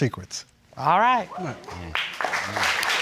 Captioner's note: crowd whooping; crowd clapping